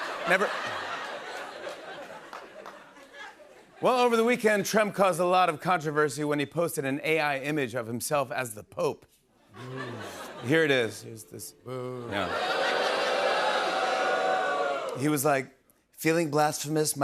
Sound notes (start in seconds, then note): 12.0 audience booing